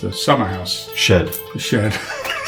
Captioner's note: laughs